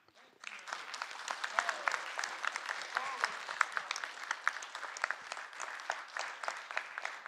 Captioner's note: applause